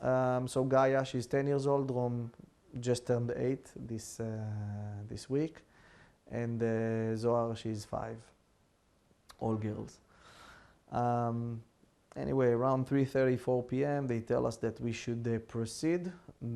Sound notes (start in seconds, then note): 10.6 sighing